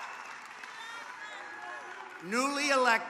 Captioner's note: applause